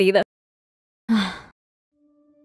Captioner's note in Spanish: suspira